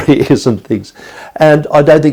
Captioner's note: chuckles